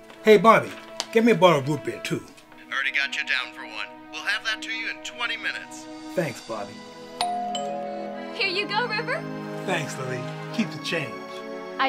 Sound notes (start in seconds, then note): 7.2 doorbell chimes